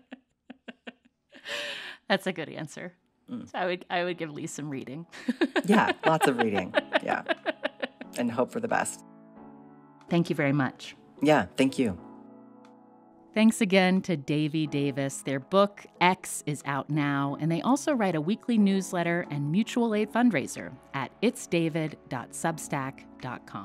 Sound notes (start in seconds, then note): 5.2 laughter